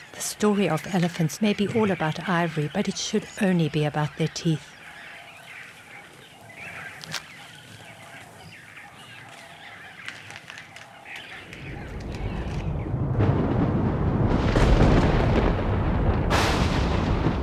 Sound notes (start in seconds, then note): 2.7 animals calling; 11.5 thunder rumbling; 13.1 crashing; 14.1 animals calling